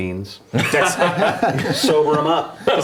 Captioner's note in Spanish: risas